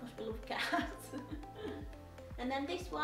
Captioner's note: giggles